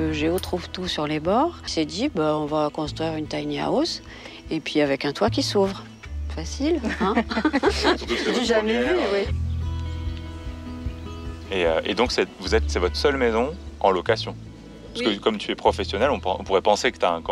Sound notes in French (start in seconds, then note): 6.8 rires